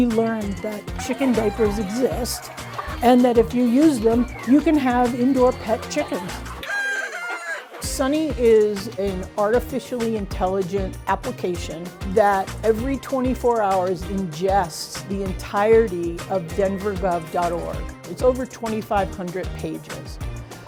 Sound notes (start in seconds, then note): 6.0 rooster crows